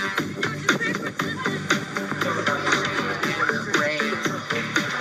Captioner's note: people chattering